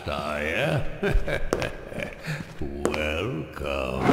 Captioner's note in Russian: зловещий смех